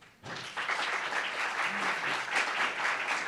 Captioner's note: applauds